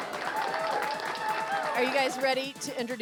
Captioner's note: all cheering